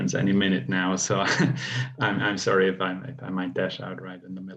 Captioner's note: laughs